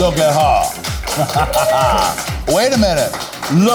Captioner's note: laughing